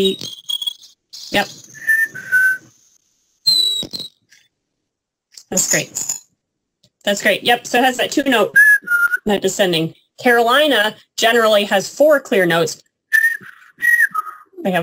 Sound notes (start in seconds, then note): 8.1 sound effect; 13.4 sound effect